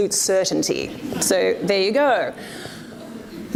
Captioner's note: audience laughs